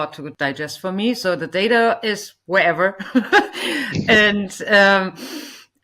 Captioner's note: laughs